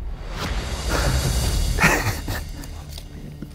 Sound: laughs

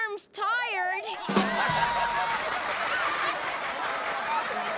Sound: laughter and applause

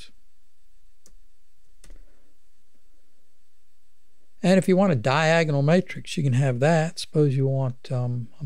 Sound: clicking

